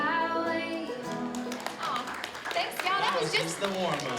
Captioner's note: audience applauds